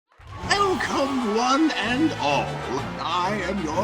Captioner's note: audience cheering